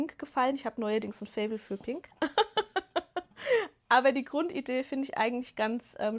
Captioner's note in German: gelächter